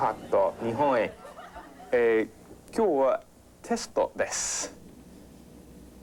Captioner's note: speaking Japanese